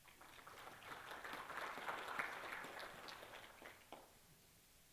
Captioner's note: applause